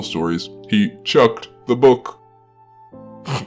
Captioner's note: snorts